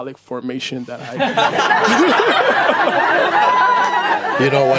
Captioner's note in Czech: smích